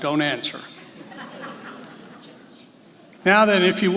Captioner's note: laughs